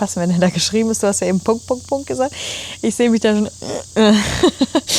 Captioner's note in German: schnauben